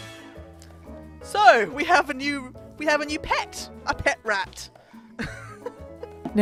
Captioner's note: giggles